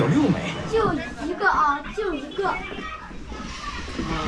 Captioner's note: children speaking Chinese